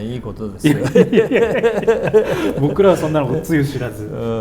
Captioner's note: laughs